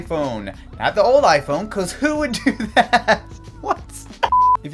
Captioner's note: laughing